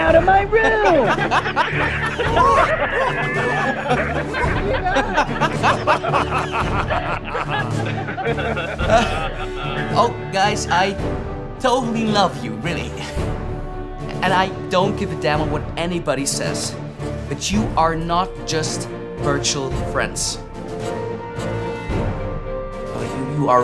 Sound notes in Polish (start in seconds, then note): 2.2 Śmiechy